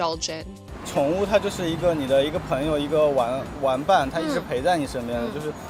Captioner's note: speaking in foreign language